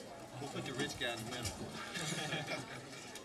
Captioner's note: laughter